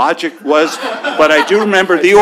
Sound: laughter

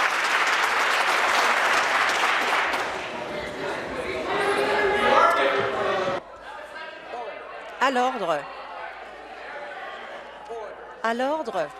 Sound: some Applause

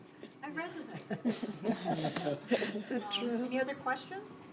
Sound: laughter

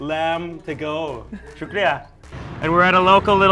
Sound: speaking in foreign language

